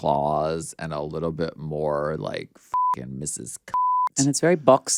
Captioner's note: beep